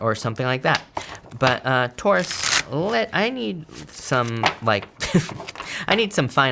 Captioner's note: laughs